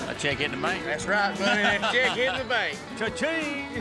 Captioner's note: laughs